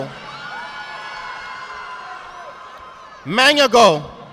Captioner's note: audience applauding